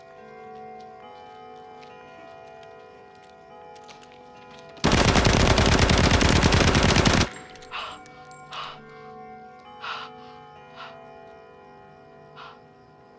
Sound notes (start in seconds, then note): 4.8 machine gun shooting; 9.8 breathing heavily